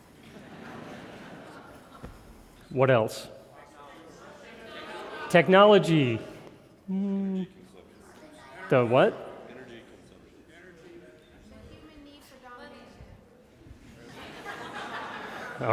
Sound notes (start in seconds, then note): 4.1 crowd chattering; 13.9 crowd laughing